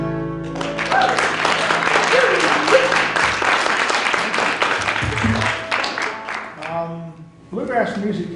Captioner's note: applause